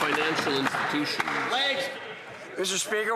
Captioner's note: some Applause